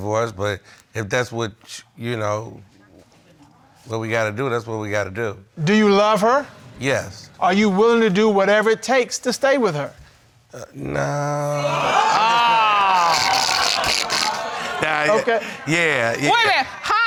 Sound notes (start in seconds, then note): 11.1 audience groans; 11.4 laughs